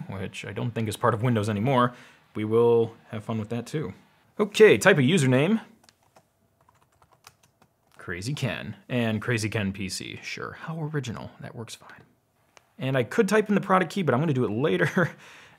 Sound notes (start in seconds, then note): 6.6 keyboard clicks